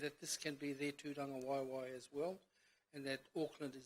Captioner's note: speaks in foreign language